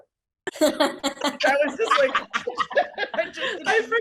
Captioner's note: laughs; others laughing out loud